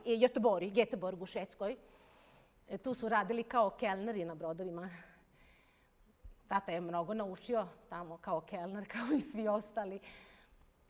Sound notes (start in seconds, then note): none